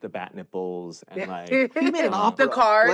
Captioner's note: laughs